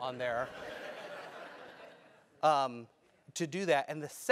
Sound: laugh

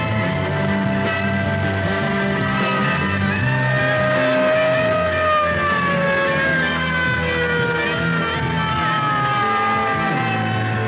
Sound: siren wailing

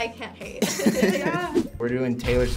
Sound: both laugh

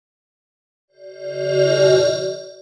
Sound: swoosh

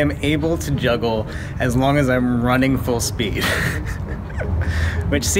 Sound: laughs

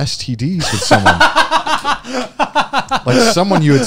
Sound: both laughing

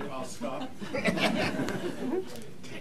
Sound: laughter

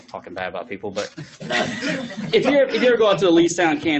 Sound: laughs

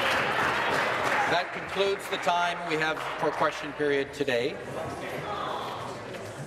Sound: applause

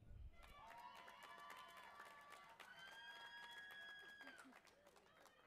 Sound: audience applauding and cheering

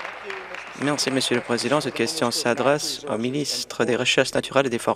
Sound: applause

